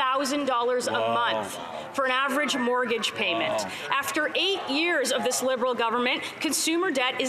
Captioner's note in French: voix de l'interprète